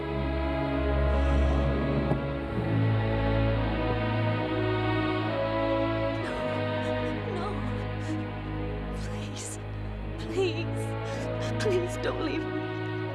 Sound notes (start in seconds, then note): 1.0 exhales